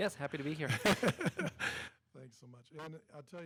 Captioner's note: laughs